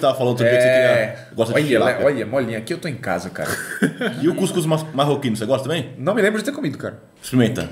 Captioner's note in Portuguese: risos